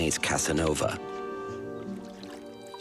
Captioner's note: water splashing